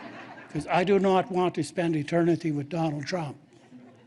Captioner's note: laughter